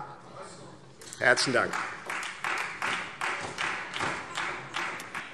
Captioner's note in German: Beifall : Was?